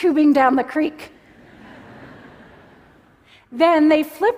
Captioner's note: laughter